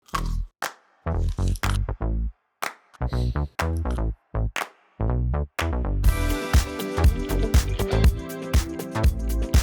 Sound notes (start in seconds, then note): 1.5 funky music begins; 2.4 rhythmic clapping continues under music; 6.1 music intensifies